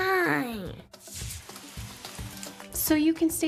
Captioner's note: rain trickling